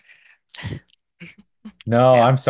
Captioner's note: chuckles